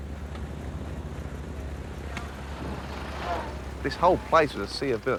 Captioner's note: engines roaring